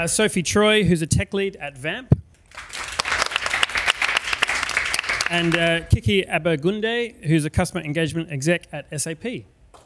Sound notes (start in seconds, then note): 2.5 audience applauds